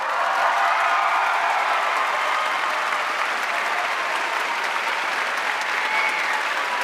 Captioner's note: audience cheering and applauding